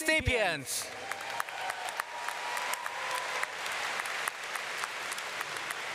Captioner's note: audience cheering and clapping